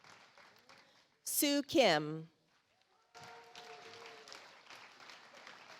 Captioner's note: audience applauds